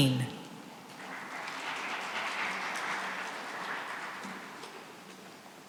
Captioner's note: applause